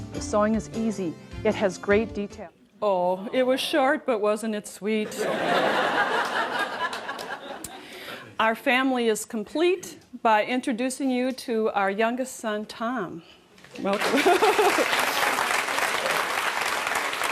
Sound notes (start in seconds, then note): 5.0 laughter; 13.8 applause